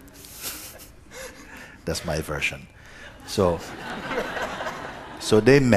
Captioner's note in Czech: smích